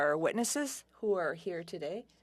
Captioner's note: speaking French